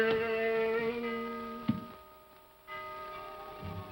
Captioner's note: clock chimes; tense haunting music